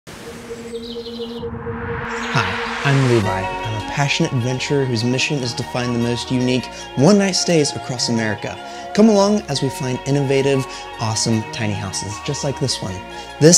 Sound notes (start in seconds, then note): 0.2 birds chirping; 1.1 gentle music